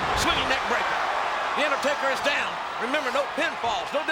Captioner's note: audience cheers